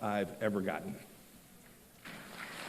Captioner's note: applause